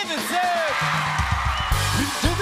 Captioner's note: cheers and applause